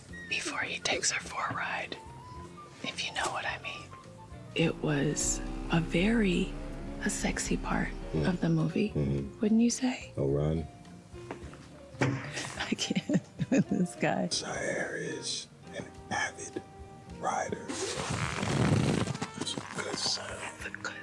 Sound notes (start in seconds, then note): 17.8 fabric rubbing